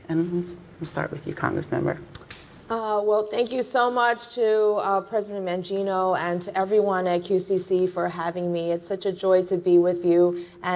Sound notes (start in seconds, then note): none